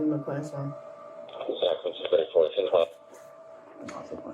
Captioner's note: radio chatter